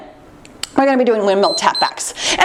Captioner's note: timer beeps